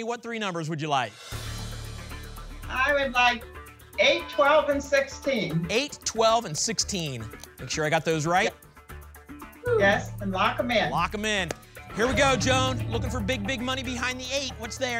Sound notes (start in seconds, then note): none